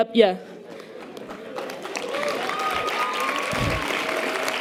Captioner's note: audience applause